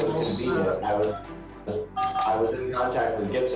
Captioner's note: phone beeping